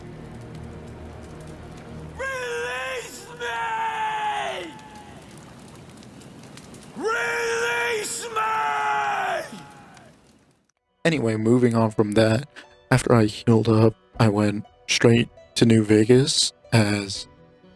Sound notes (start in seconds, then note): 2.1 screaming; 6.9 screaming